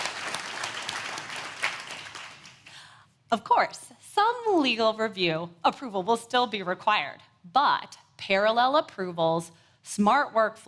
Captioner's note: applause